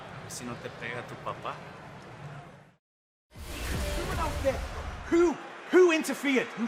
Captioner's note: spanish language